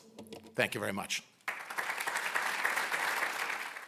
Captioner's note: applause